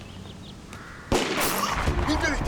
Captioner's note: gunshot